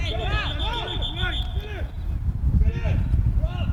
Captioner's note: whistle